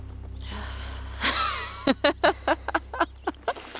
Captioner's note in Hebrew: צחוק